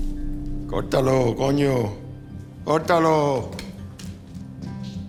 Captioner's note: speaks Spanish